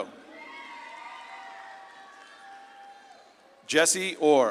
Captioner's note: audience claps and cheers